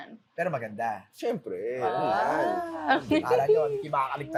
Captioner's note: chuckles